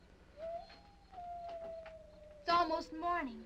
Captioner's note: insects chirping; wolves howling